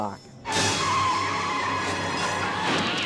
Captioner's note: tires screeching